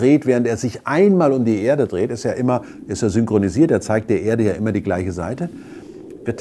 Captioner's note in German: Rauschen